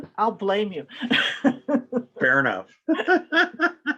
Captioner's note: laughs